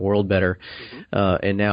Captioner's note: affirms